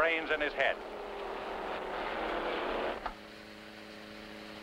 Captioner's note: engines revving